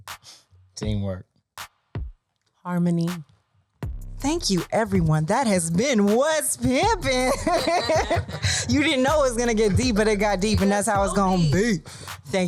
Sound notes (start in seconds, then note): 7.1 laughing